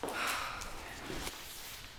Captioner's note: sighs